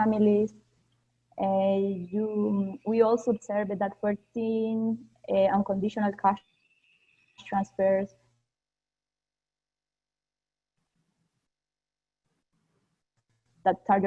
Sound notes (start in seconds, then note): 7.0 pause